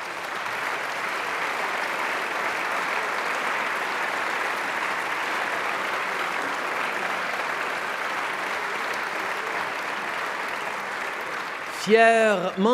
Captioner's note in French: Applaudissements